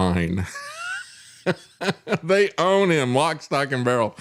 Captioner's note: laughs